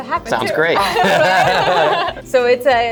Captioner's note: laughing